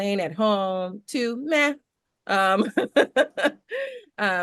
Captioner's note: chuckles